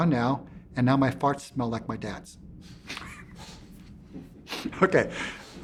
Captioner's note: laughs